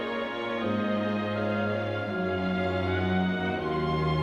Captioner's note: none